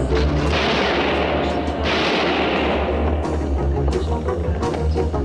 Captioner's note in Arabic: إطلاق نار; موسيقى درامية